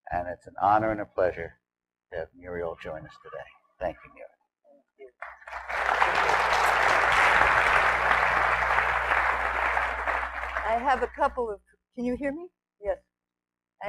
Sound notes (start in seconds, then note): 5.2 audience applause